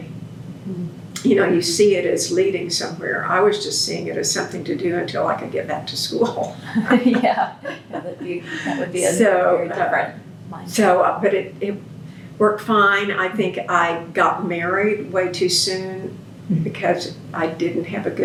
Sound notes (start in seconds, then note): 10.2 laughter